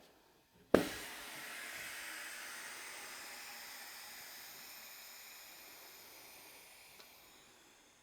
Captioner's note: sound of air rushing back into drum interior